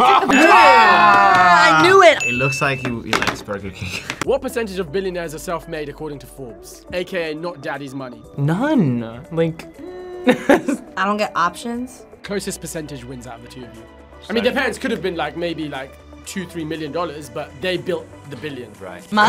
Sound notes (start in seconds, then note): 4.0 laughs; 9.8 laughs